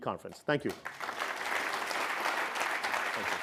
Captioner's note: applause